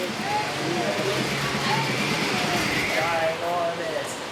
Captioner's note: fan rattles